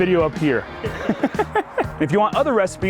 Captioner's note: laughs